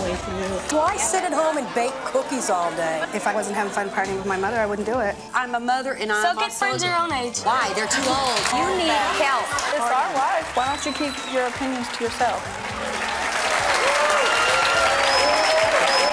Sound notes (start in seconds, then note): 12.5 clapping